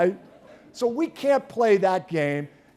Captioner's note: laughter